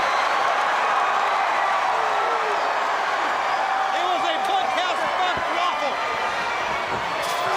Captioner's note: applause